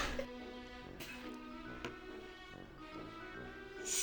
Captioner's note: laughs